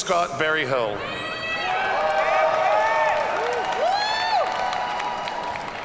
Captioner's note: audience cheers and applauds